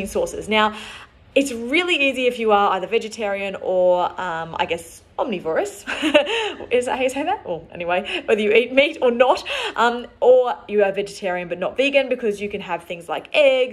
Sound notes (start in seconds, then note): 5.8 laughs